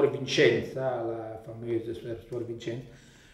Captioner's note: Italian spoken language